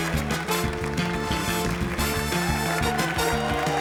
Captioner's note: cheering, applause